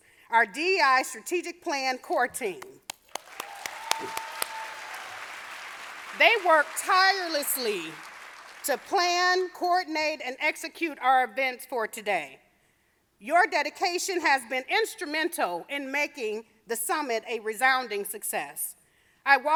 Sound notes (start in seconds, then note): 2.8 audience applauding